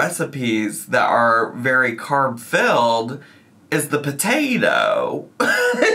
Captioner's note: laughs